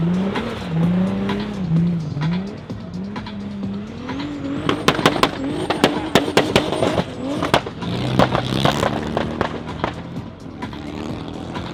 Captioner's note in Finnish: moottorin ääni